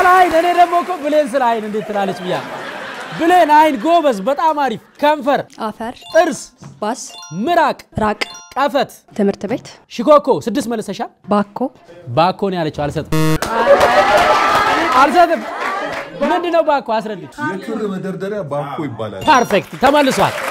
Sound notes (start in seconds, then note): 13.1 crowed sound; 19.2 applause